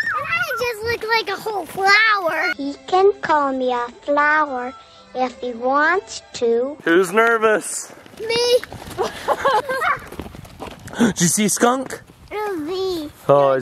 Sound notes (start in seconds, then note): 8.9 laughing; 10.7 gasp